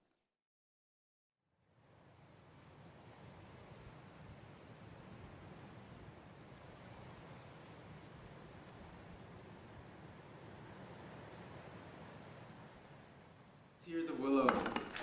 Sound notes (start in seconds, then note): 2.4 gentle wind blowing